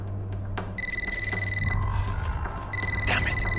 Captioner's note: cellphone ringing